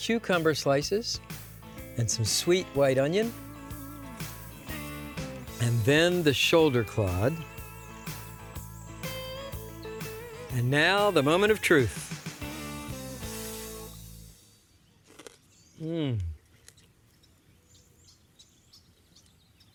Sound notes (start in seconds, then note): 12.8 crunching